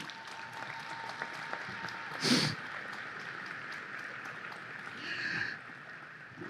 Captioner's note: audience applause